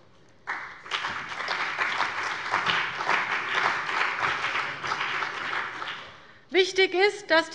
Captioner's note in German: Beifall bei der CDU und dem BÜNDNIS 90/DIE GRÜNEN